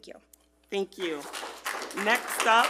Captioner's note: group applauding